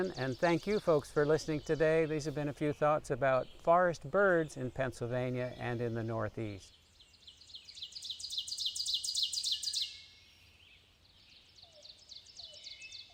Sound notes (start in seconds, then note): 7.4 birds chirping